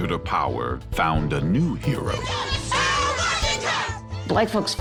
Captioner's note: all shouting